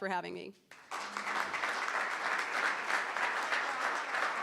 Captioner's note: crowd clapping